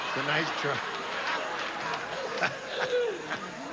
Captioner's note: all laughing